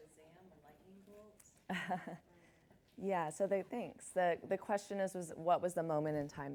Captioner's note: chuckles